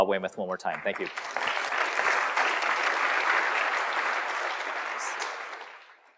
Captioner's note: applause